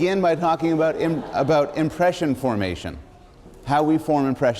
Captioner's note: laughter